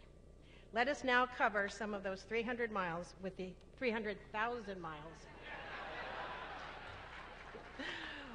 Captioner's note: laughter